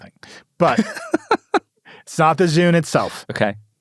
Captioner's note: laughs